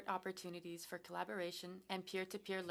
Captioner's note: speaking french